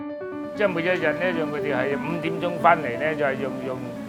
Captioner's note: speaking Cantonese